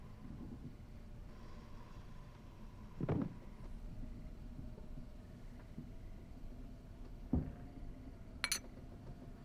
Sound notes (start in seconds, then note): 3.3 muffled thudding